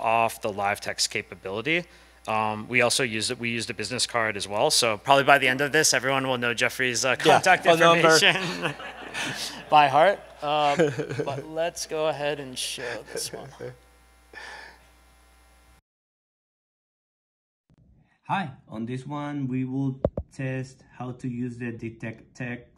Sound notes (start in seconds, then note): 7.3 laughter